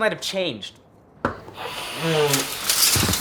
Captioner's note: snorting loudly; loud crash